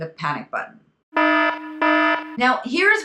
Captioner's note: siren whining